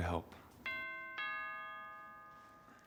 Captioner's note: doorbell chimes